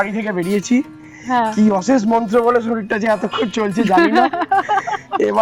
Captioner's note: loud laughter